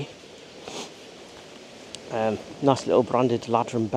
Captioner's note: waves lapping